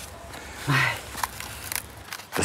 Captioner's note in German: seufzt